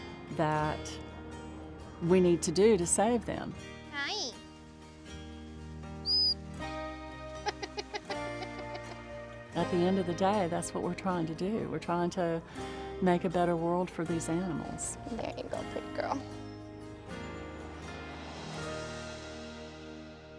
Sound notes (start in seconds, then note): 4.9 laughing; 6.0 high pitched whistle